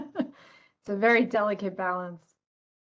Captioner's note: laughter